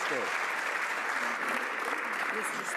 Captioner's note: some Applause